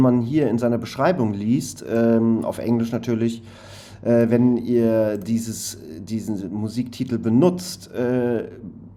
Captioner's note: in English, of course